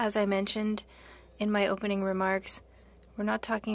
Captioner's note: speaking French